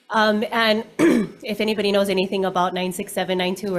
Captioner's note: coughs